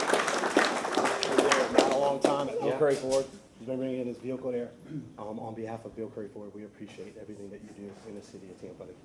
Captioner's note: applause